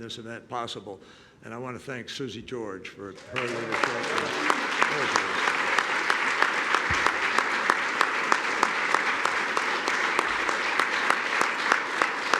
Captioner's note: applause